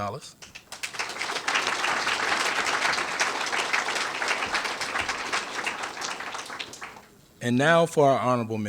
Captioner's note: applause